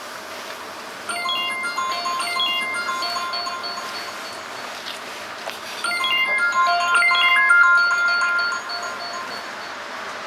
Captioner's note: alarm ringing